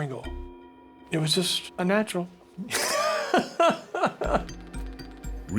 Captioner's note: laughs